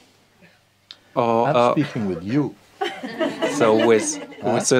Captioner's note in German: Lachen